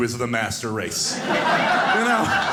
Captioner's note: audience laughing